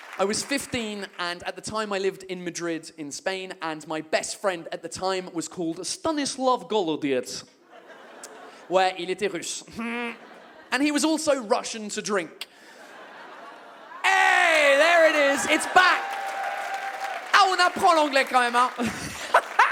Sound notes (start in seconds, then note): 14.1 audience whoops and claps